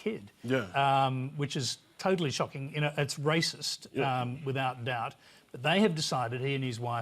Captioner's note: none